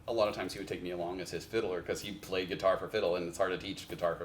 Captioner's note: none